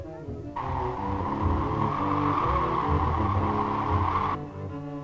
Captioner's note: wind howling